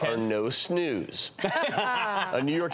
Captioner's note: laughter